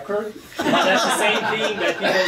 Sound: audience laughing

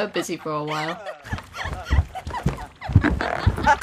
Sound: footsteps with stupid dumb giggling still happening

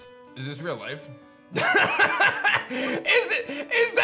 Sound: laughs

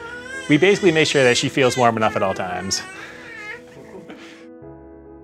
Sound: chuckling; soft piano music

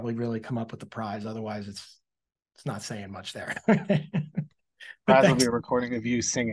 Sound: laughs

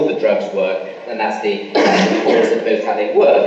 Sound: coughing masks speaker

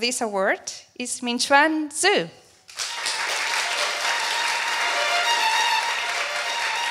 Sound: applause

